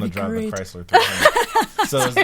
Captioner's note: laughing